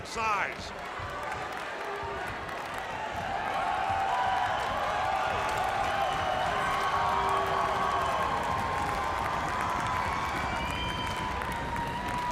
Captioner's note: crowd cheering